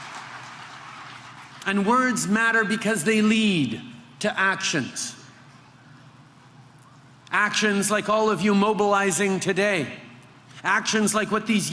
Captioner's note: applause